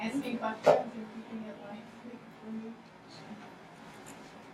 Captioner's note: speaking softly